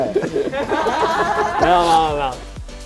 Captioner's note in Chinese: 哈哈哈哈哈